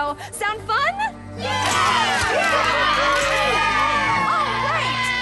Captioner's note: cheers